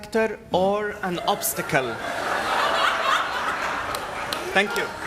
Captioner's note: laughter